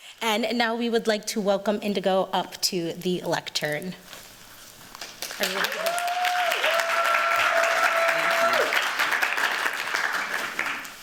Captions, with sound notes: And now we would like to welcome NDGO up to the lectern. [CHEERS, APPLAUSE]